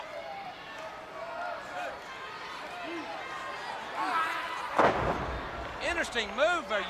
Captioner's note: crowd chatter